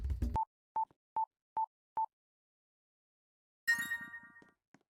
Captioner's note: beeps, Then Dings